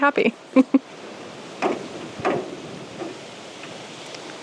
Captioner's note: something banging in the wind